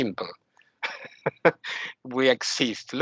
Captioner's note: laughing